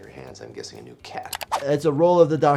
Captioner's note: mouse clicking